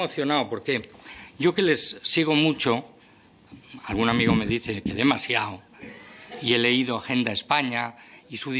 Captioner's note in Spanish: Risas